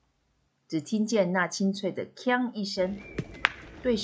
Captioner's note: clang!